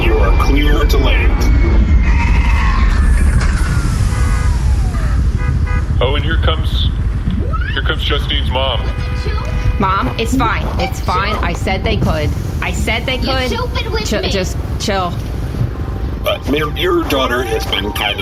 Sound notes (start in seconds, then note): 8.1 car horn honks; 8.1 honks car horn